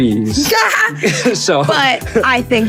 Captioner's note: Lovie laughing; laughing